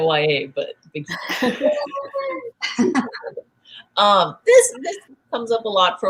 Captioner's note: laughter and soft cheers